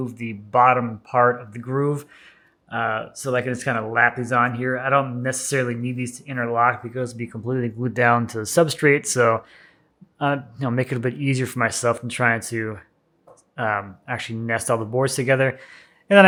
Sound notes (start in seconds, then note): none